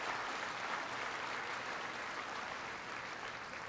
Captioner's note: applause